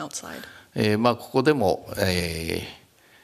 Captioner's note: speaking japanese